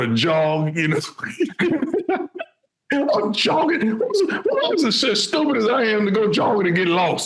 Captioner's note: laughing